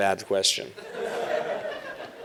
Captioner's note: laughter